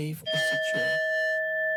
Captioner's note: bell dings